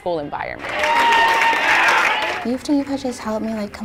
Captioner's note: applause